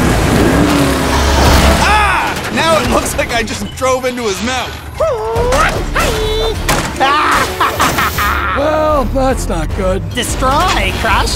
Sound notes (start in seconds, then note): 1.8 exclaiming; 5.9 karate sounds; 7.9 cackling